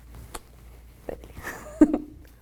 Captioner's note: chuckles